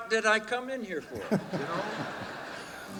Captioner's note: crowd laughing